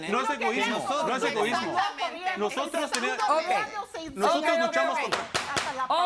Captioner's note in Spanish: Comentarios al unísono